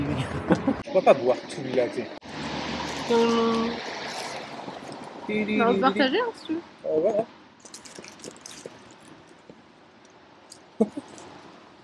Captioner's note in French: rires